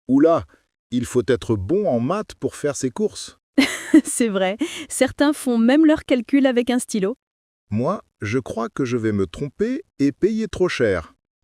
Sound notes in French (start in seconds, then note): 3.6 rire